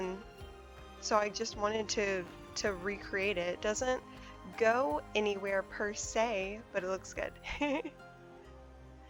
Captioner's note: laughs